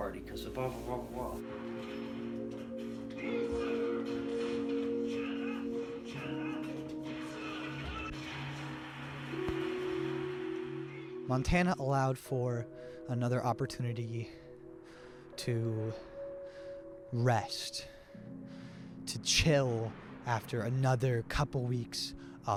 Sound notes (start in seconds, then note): 3.4 yelling from TV